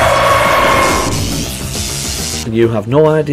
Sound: Gryffyn jumpscare SFX; electricity SFX

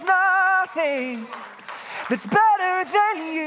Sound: congregants clapping hands

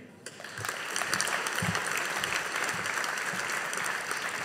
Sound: audience applauding

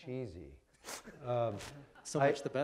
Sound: audience laughing

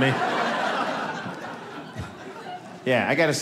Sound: audience laughing

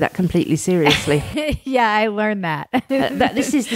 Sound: laughs

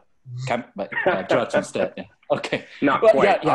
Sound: laughs

